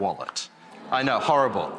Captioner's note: audience groaning